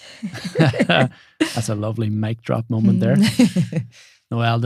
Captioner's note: both laughing